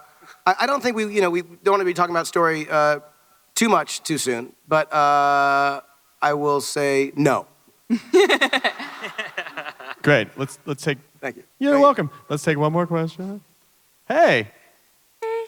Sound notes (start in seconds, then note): 7.9 chuckling and laughter